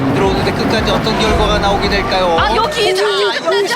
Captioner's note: car shaking violently